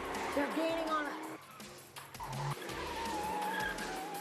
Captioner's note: tires squealing